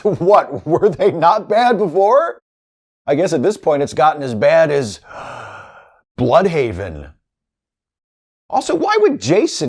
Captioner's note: gasp